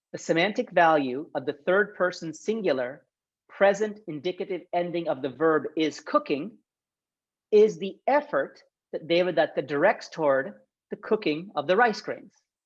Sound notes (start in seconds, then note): 8.4 speaks Sanskrit